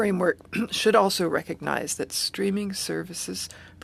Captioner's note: speaking French